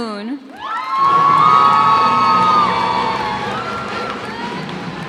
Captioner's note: cheers and applause